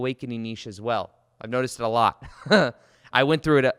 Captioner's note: chuckles